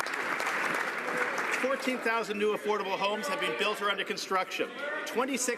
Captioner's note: some Applause